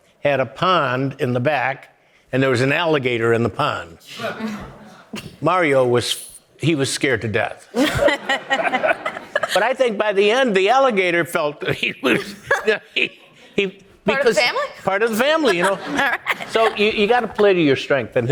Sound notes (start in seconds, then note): 7.7 audience laughing